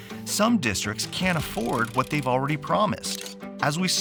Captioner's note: steam releasing; crank rattling